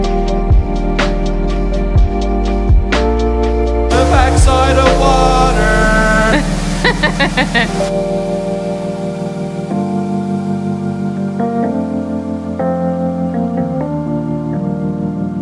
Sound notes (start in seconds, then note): 6.1 laughing; 8.2 chilled music continues